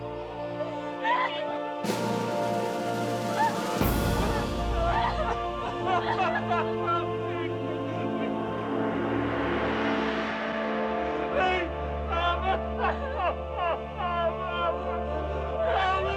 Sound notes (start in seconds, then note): 0.7 crying; 5.6 both crying